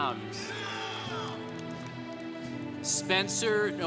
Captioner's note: congregation cheering